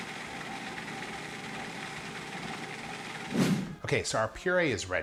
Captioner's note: processor whirring